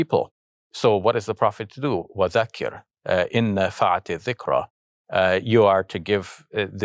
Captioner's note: speaking Arabic